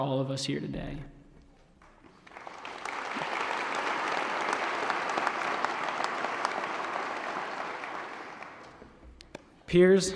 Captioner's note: applause